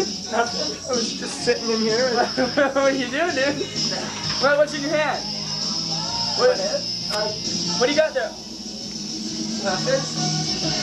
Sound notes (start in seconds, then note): 2.1 laughter